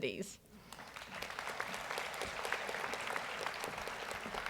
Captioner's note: audience applauds